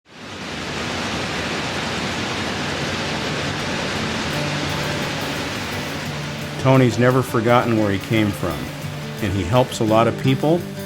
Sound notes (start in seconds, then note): 0.0 machine conveyor belt noises